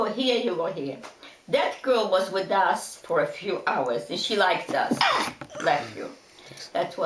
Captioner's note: sneezing